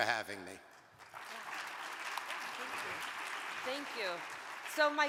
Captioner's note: audience applauding